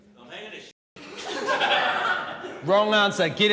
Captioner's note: laughter